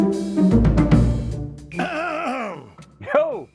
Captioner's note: clears throat